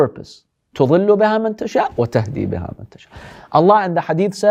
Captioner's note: Arabic